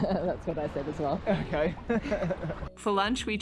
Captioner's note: laughs